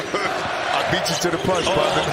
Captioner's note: laughs